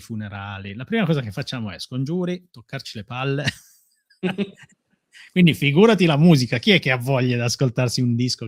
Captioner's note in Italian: risate